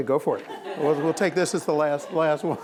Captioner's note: laughing